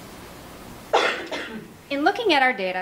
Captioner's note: audient coughs